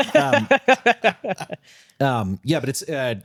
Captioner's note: both laughing